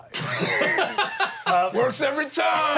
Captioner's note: everyone laughs